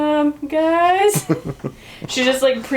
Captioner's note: laughs